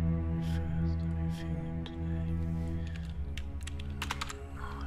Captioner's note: quietly